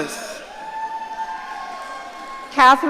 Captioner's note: audience cheering